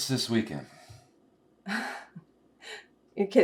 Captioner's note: chuckles